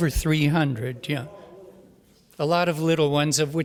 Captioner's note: voiceover